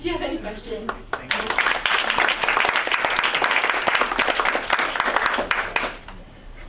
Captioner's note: audience clapping